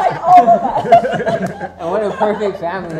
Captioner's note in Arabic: يضحك